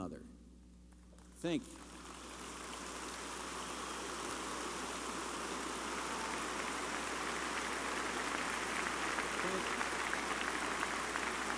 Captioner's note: applause